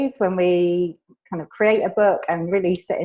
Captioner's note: none